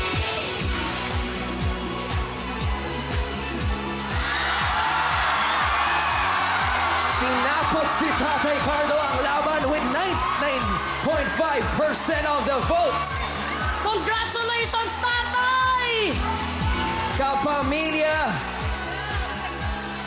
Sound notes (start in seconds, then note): 0.2 upbeat music playing; 4.6 audience cheering